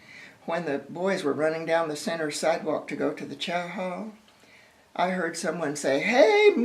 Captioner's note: yell